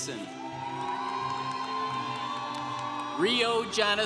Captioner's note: congregation cheering